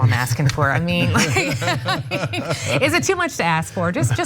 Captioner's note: laugh